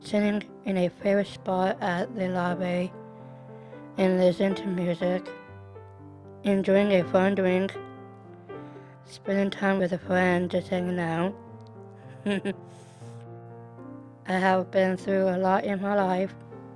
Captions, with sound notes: sitting in a favorite spot at the library and listening to music enjoying a fun drink spending time with a friend, just hanging out [laughing] I have been through a lot in my life